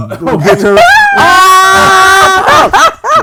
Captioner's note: screaming